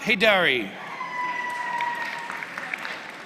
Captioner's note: applause